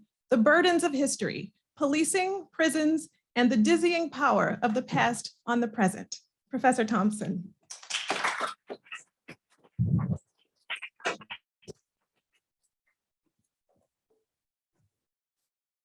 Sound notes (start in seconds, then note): 7.7 applause